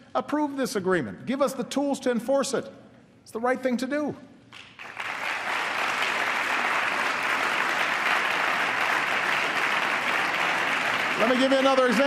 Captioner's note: applause